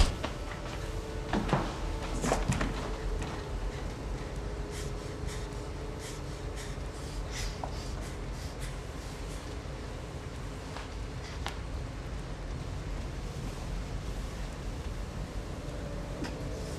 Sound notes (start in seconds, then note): 0.1 body thudding; 0.1 fist thudding; 6.9 fighter breathing heavily